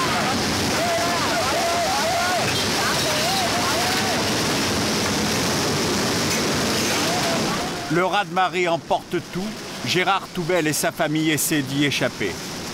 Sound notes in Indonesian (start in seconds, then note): 0.0 suara kepanikan